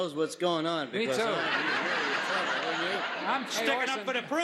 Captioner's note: laughs